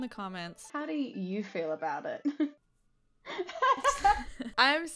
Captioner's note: laughs